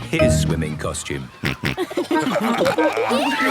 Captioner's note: snorting, giggling